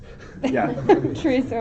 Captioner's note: laughter